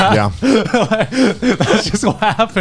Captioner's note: laughing